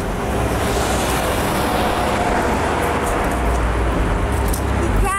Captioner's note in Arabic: زئير محرك الشاحنة